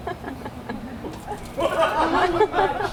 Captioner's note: audience laughs